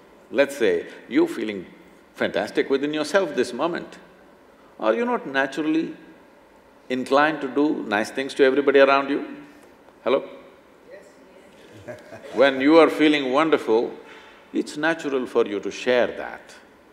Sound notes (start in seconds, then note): 11.6 laughs